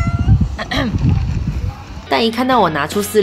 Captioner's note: coughing